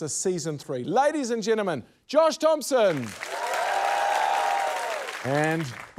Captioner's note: cheering, applause